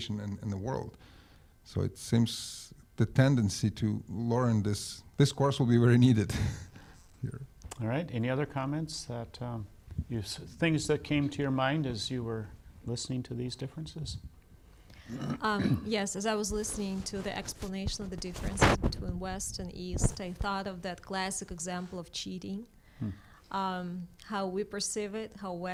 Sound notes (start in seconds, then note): 7.1 laughs